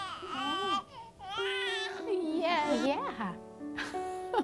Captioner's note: baby noises; laughing